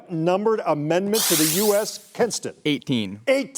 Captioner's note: buzzer sounding